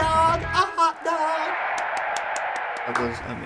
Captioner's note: music video: crowd cheers